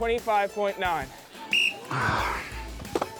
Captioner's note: blows whistle